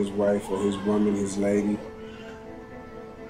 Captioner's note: baby wailing